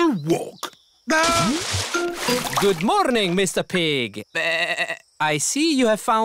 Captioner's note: bleats